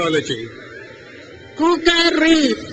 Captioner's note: crowd cheers